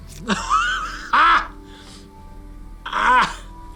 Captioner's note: laughs loudly